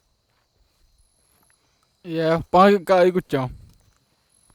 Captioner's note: speaking in Tupi-mondé